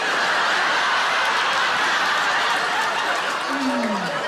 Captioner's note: audience laughs